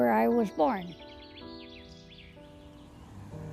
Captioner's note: birds chirping